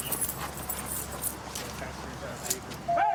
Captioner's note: none